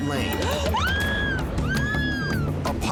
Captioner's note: screaming